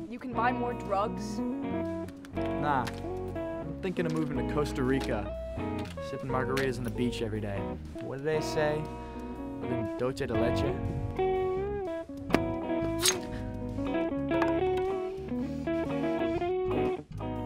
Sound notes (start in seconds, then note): 12.2 thud; 12.9 sword unsheathes